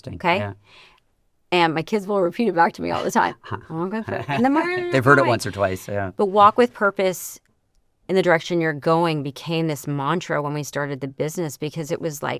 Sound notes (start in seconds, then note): 3.7 mumbling